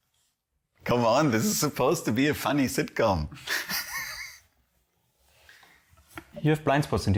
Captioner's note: laughing plentifully